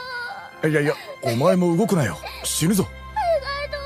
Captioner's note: man talking concernedly in japanese